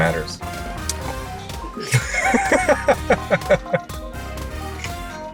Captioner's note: both laugh